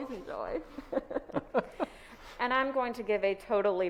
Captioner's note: both laughs